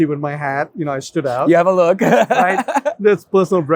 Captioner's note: laughs